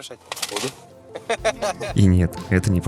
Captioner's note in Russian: оба смеются